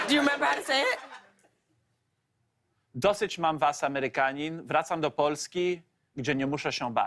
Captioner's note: speaking Polish